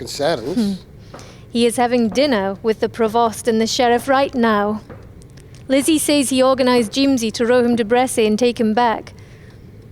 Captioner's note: sighs